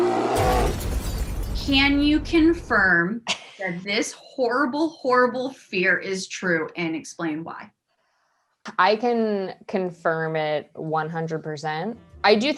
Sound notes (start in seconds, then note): 0.0 bear growl; 0.2 explosion